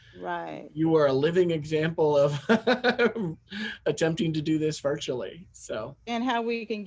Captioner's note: laugh